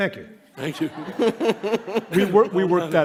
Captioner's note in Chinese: 笑聲